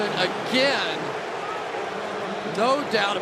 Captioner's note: booing